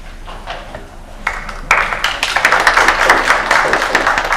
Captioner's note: applause